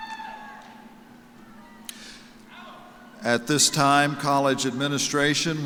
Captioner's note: cheers and applause